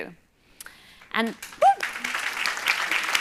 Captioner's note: applause